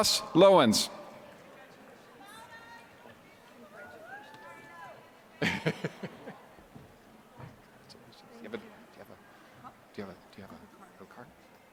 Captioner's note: laughter